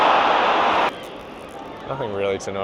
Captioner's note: crowd cheering